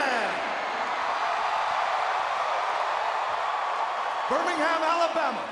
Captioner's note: audience cheering